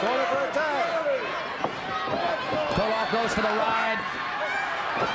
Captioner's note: crowd cheering